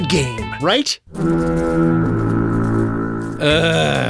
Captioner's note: foghorn